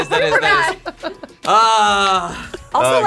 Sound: bell dinging

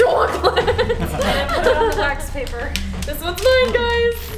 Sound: laughing

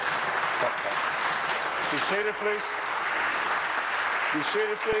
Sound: applause

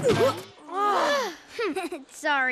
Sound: annoyed sighs; giggles

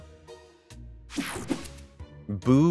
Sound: transition zapping

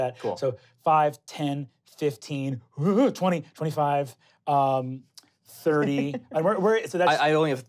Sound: gasps

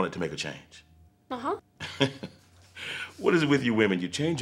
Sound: Gates laughs

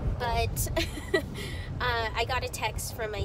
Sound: laughs

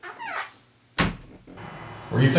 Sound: door closes

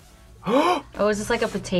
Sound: gasps

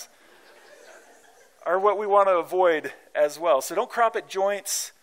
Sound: laughter

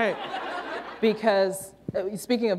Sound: laughter

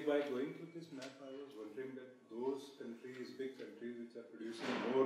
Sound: murmuring question

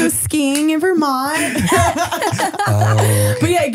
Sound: all laughing

